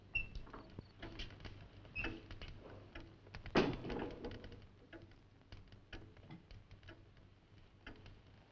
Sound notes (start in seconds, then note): 3.9 fire crackling; 5.7 clock ticking